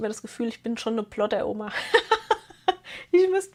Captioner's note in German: gelächter